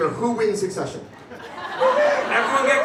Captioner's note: crowd laughs